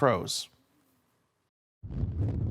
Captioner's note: silence; whoosh